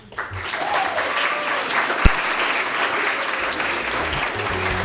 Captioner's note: applause; closing music